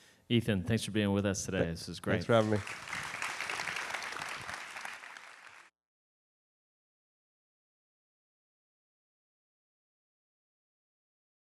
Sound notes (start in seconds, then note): 2.1 applause